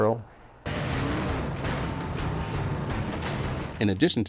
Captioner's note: engine sounds